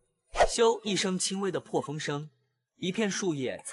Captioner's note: whoosh